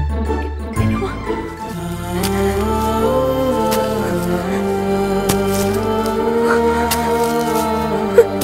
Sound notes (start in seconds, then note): 1.5 tv playing